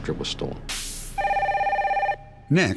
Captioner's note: phone rings